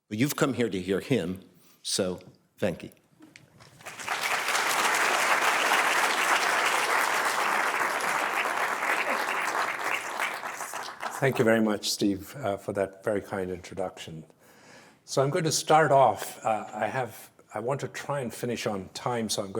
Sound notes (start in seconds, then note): 3.7 applause